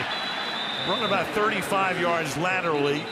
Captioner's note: whistle blows